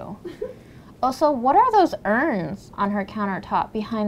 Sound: woman giggles

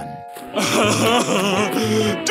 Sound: laughing

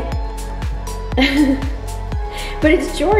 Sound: laughs

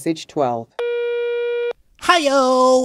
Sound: phone tone

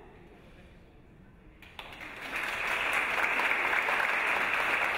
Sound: audience applause

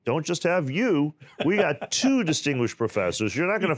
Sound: laughs

